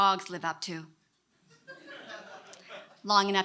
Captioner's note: audience laughing